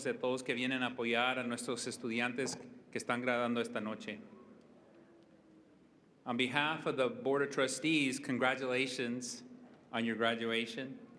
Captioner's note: speaking spanish